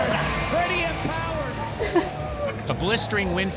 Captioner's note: sobbing